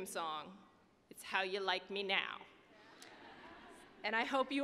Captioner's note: audience laughing